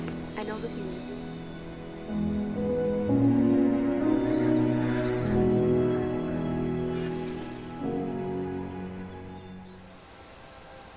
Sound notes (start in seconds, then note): 2.0 gentle music; 4.3 horses braying